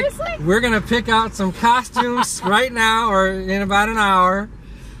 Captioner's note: laughing